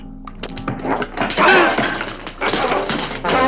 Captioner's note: body thudding; upbeat music